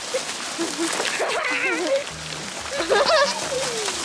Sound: kids laughs

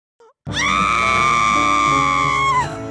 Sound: scream

